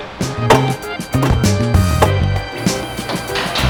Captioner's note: hammering